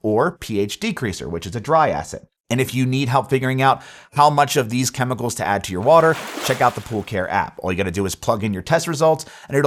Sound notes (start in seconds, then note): 5.8 graphics splash